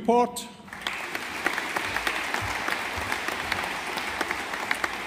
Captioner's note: audience applauding